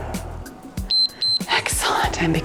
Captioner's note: timer beeps